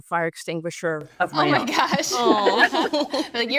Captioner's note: laughs